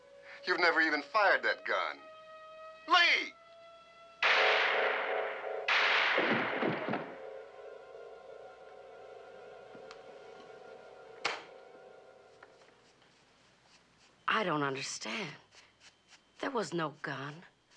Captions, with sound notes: You've never even fired that gun. Lee! [gunshots] [thudding] I don't understand. There was no gun.